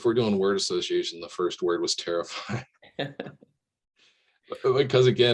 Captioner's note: chuckles